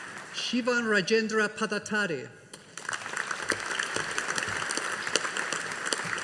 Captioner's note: audience applauding